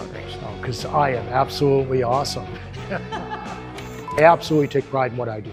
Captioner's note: laughter off-camera